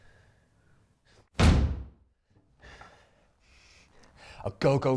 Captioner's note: slams desk